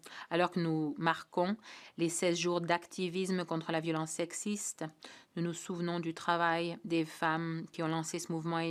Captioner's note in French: voix de l'interprète